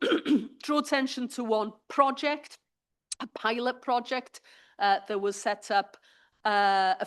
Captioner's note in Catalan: s'aclareix la gola